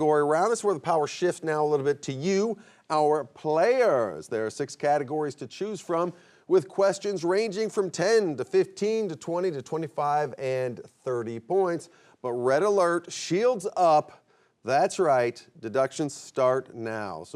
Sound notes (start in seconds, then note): none